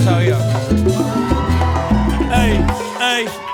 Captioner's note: audience cheering